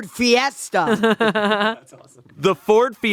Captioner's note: laughing